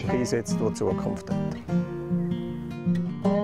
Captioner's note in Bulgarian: глас зад кадър